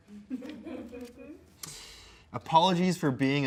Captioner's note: crew laughs